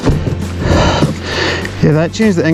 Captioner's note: wood dragging on ground